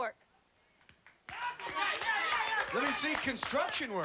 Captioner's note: cheering